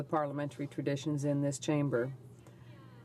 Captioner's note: speaking french